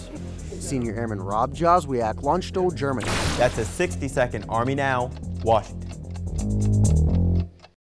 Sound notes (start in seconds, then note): 5.2 bass guitar playing; 5.2 clock ticking